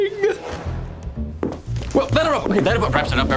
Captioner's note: footsteps